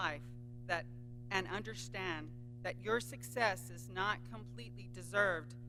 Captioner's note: none